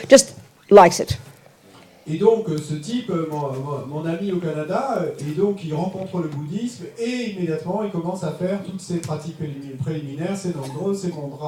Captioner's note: French